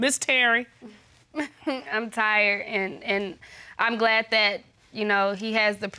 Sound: chuckles

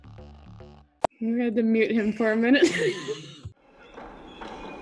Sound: laughs

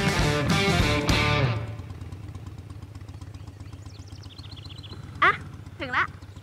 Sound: motorbike engine

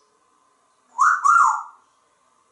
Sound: sexy whistle

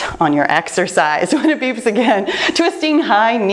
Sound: laughs

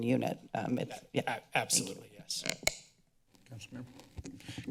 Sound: microphone squeaks

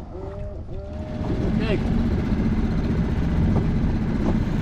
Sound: playfully roars; machine moves up boat ladder; dinghy engine revs

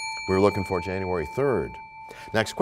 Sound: bell rings, time expires

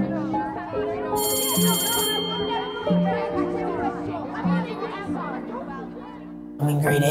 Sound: bell ring

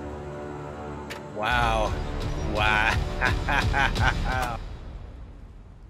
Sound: laughs

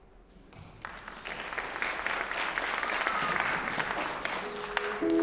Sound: applause

